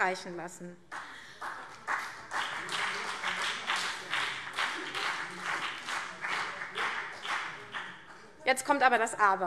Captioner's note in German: Beifall CDU und BÜNDNIS 90/DIE GRÜNEN